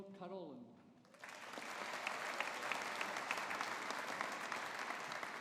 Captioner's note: audience applauding